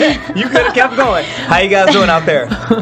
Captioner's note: laughs